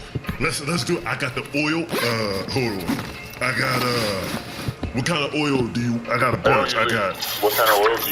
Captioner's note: unzips bag